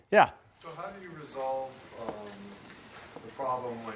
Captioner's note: voiceover